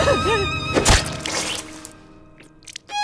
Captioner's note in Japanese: グサッ